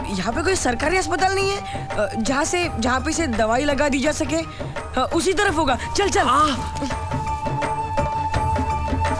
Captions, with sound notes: Is there no government hospital nearby.. ..where it could be treated? It must be that way. Come on. - (Groans)